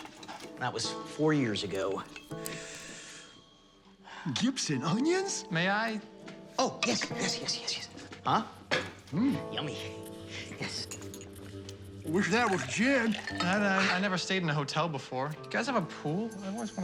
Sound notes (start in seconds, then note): none